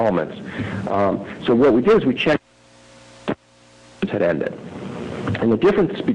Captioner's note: audio cutting in/out